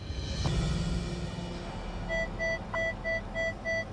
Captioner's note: device beeping